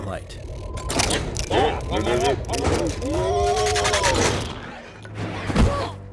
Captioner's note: grumpy droid sounds